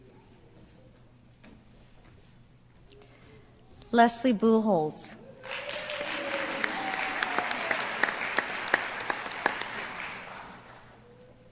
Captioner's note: applause